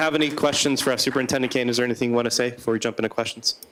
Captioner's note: applause